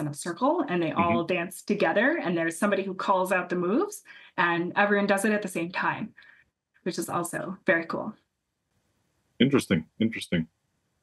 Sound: laugh

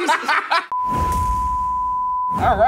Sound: laughing; test pattern tone beeping

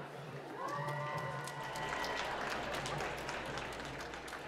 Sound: applause

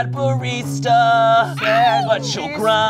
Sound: cheering

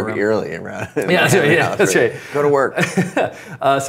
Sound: both laugh

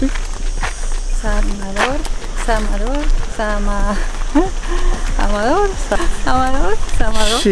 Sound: murmurs

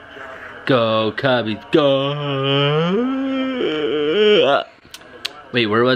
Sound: exaggerated yawning

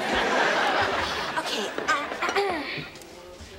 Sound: clearing throat

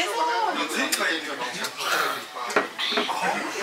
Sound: gulp

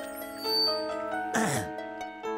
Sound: clearing throat

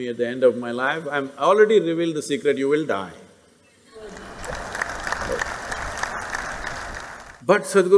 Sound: laughter/Applause

